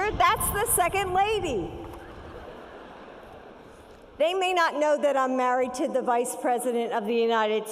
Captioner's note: laughter